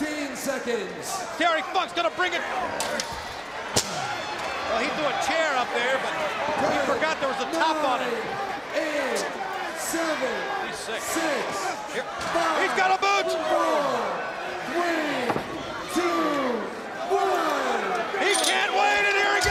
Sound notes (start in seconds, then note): 2.6 crowd chatter